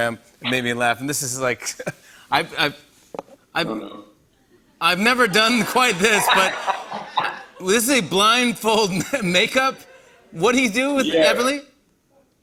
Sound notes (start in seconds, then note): 5.2 laughter